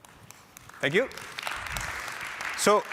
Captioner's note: applause